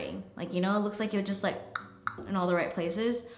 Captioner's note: clicks tongue